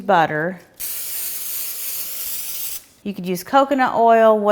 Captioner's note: cooking spray dispensing